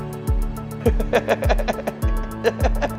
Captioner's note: laughter